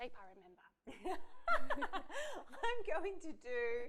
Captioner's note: laughs